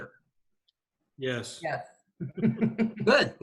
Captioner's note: panelists chuckles